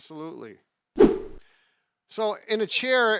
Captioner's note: whoosh